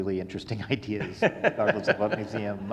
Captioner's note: all laughing